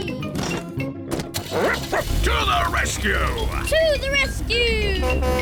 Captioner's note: barks; horn blares